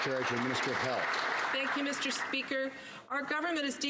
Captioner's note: some Applause